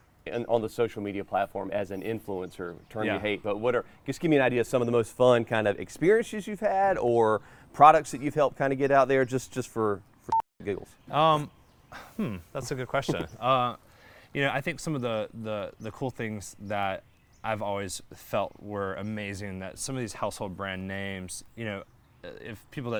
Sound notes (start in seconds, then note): 10.3 beep